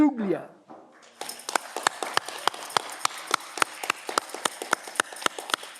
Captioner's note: audience clapping